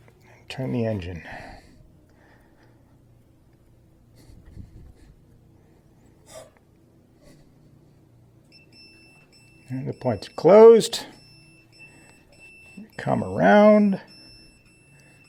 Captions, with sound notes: And turn the engine. [high pitched beeping starts] And the points are closed. We come around.